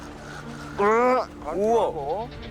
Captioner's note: struggling